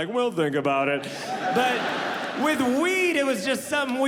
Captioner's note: audience laughing